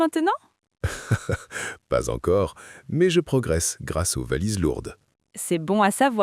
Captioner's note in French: rire